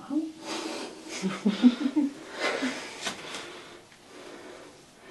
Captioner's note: partner laughs